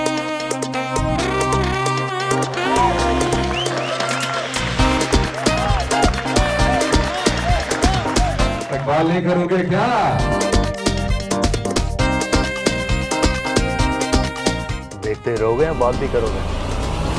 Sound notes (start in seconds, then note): 1.6 audience Claps